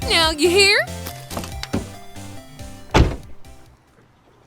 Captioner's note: footsteps, car door slamming